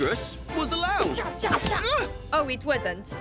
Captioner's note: grunting